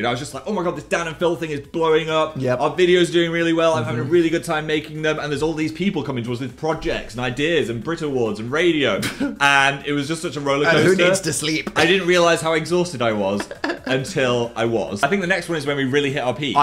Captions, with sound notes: I was just like, "Oh my God, this Dan and Phil thing is blowing up". - Yeah. - Our videos are doing really well. I'm having a really good time making them and there's all these people coming to us with projects and ideas and Brit awards and radio and it was just such a rollercoaster. - (laughs) And who needs to sleep? - I didn't realize how exhausted I was until I was. I think the next one is when we really hit our peak.